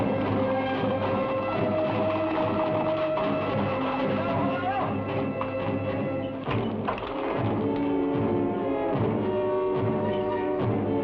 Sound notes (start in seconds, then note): 4.2 man shouts; 6.6 suspenseful music